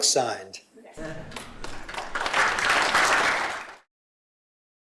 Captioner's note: applause